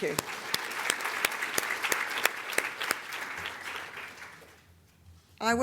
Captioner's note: audience Applause